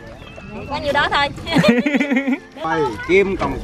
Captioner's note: laugh